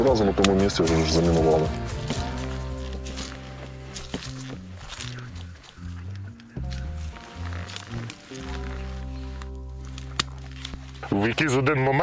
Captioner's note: steps and cutting wire sound